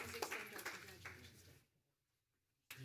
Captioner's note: applause